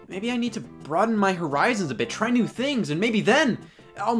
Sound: none

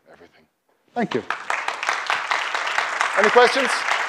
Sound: applause

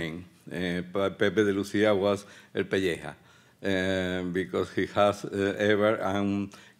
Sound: speaking Spanish

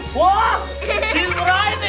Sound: laughing

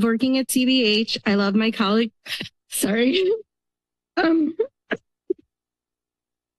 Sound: emotionally choked voice

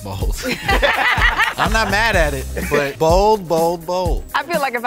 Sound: laugh

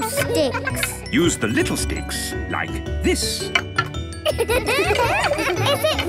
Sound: laughter

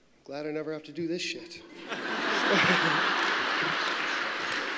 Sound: applause

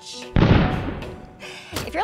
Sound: explosion

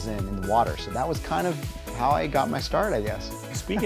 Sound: laughing

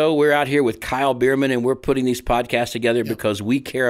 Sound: none

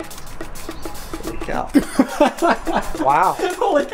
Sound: laughing

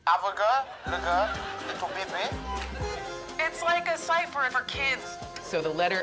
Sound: speaking gibberish

